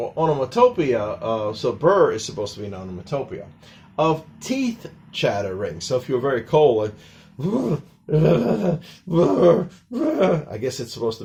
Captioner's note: brr sounds